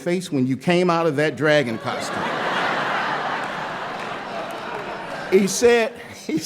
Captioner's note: laughter